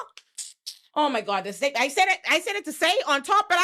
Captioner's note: clicking